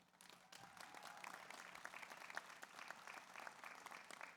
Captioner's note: audience applauds